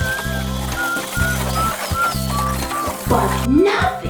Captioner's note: boy whistles